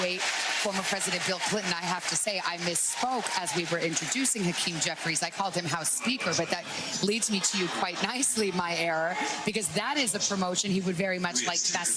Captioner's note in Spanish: Vitores